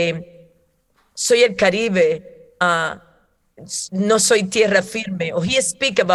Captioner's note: speaking in foreign language